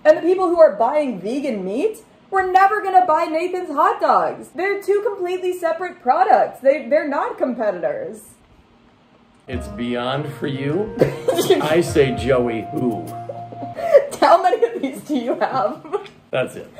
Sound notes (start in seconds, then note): 9.4 poetry music; 11.0 laughing